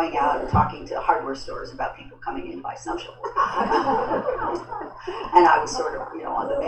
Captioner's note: laughter